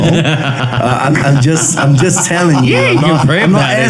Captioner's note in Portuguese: risos